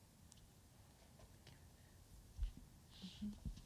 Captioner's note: quietly